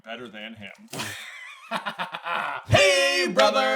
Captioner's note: laughter